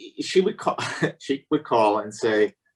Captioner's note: giggles